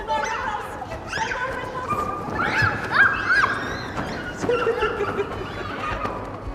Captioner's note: parachute rustling